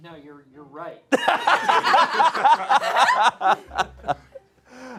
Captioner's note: audience laughing